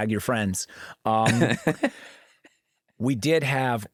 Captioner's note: laughs